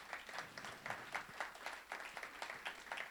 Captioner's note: applause